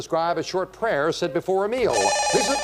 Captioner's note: beep